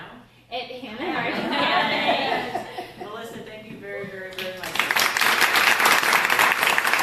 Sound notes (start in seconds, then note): 1.0 laughter; 4.4 applause